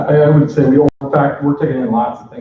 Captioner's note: offscreen Voice